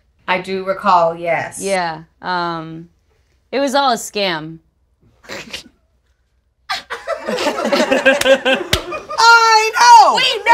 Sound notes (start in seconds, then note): 6.7 group laughs